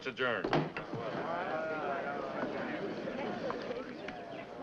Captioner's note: crowd murmuring